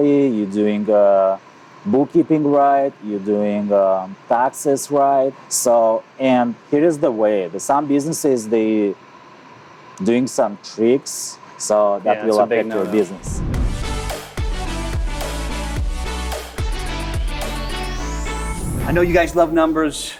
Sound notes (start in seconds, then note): 13.9 murmurs; 14.3 bright upbeat music